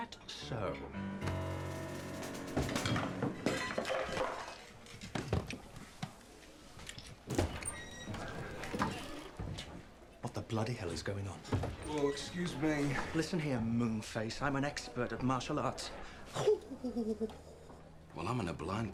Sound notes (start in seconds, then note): 0.2 playful music; 1.7 objects clattering